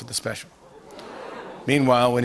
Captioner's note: audience ohh's